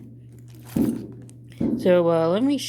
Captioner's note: big firework bangs